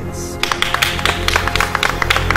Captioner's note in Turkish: Herkes alkışlar